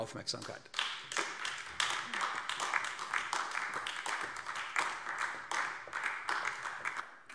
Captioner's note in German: Beifall AfD